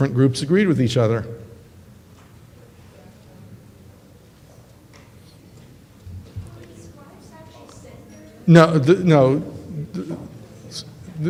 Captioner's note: audience member talking